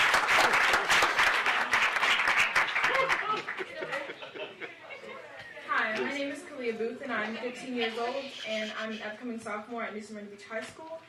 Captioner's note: applause